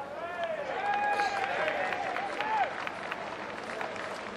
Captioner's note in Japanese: 拍手